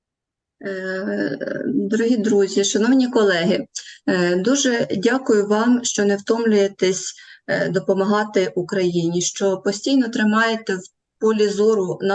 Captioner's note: foreign Language